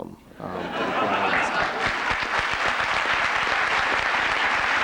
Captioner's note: laughter